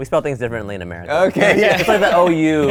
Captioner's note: laughs